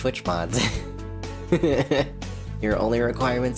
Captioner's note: giggle